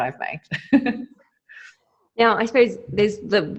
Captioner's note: laughing